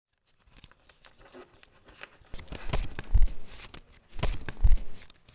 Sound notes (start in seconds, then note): 0.3 cards shuffle